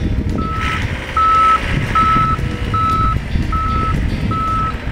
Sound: loader safety backup beeps

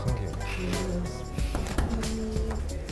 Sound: tapping

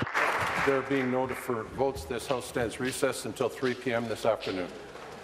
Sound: applause

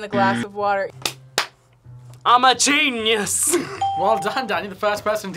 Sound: bell rings

